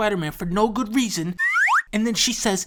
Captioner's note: comedy Slide Whistle